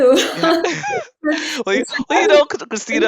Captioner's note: both laughs